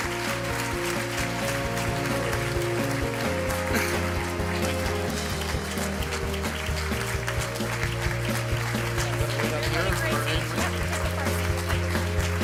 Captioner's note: applause